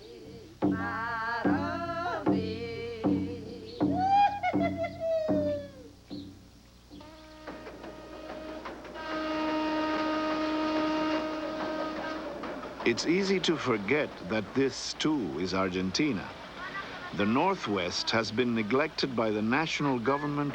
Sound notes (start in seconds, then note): 3.9 woman's hooting laughter ends chant; 7.5 train whistle blowing